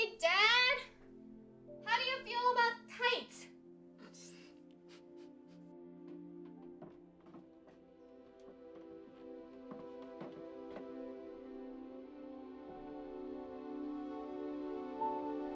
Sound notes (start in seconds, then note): 4.0 Caralique laughs; 5.8 hopeful melody building